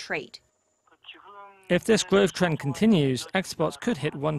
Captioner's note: Korean